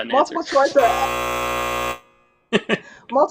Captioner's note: buzzer sounding